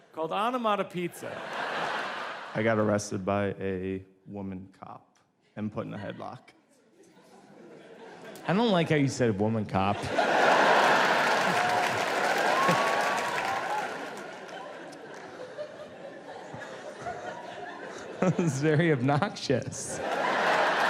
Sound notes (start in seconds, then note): 1.1 audience laughs; 6.9 audience laughs; 10.0 audience laughs and claps; 18.6 laughs